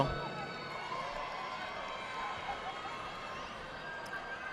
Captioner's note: audience applauding